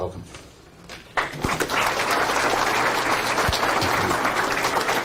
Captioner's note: audience applauding